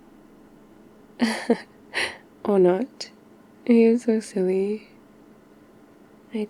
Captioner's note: laughs